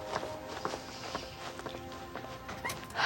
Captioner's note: deep sigh